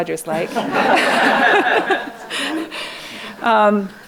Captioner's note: laughing